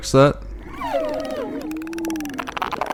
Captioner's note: excited Alien sounds